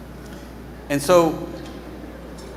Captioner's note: none